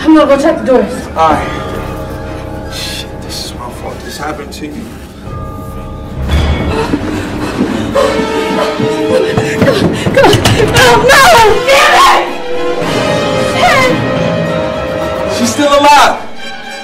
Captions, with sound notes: - I'm gonna go check the doors. - Alright. Shit this is my fault, this happened to you. (Janet panting) - Come on, come on. Oh no, dammit. Shit. - She's still alive.